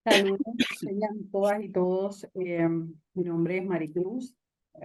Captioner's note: speaking Spanish